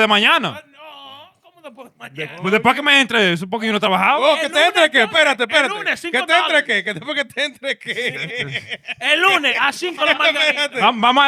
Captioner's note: speaking In Foreign Language